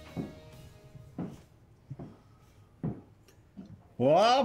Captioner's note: footsteps approaching